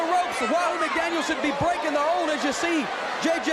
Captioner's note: crowd cheering